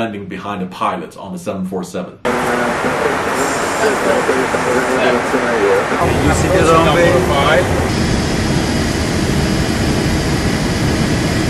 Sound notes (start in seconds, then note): 2.0 engine roaring; 4.5 background talking; 8.5 engine roaring